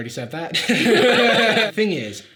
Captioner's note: both laughing